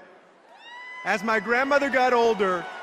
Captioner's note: applause